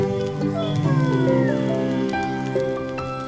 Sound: yawning

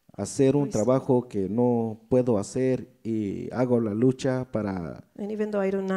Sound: speaks in foreign language

